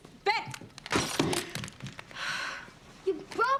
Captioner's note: glass shattering